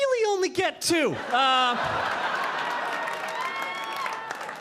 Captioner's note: audience laughing